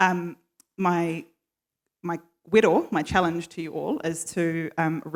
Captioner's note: foreign language